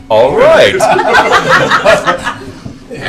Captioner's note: laughter